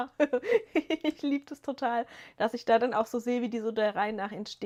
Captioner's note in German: gelächter